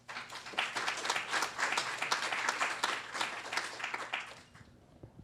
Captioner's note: applause